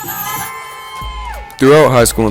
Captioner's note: crowd cheering